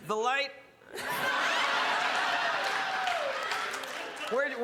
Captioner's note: crowd laughs